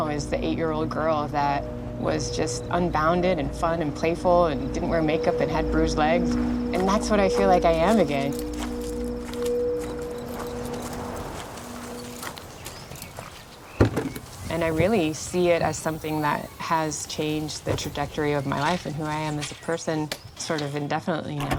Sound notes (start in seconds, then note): 13.7 car trunk opens